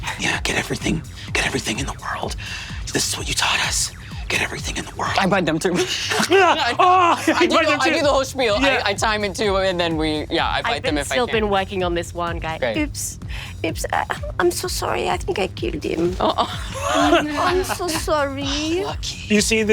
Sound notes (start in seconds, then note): 6.3 Brennan shouting; 15.9 laughs